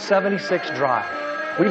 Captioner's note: phones ringing